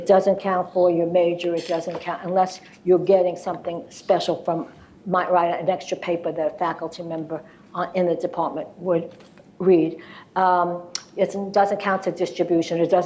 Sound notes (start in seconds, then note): none